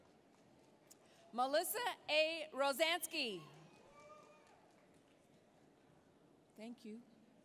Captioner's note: applause; applause